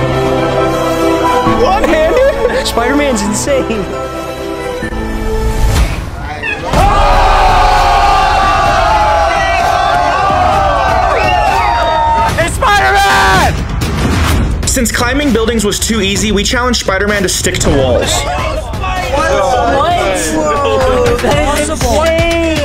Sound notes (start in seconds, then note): 0.2 suspenseful music; 6.3 crowd cheering; 14.1 tense music; 18.1 crowd chattering